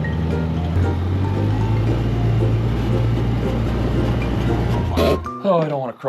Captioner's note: engine rumbling continues; playful music continues